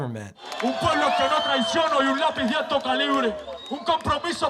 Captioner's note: hip-hop artist addressing crowd in Spanish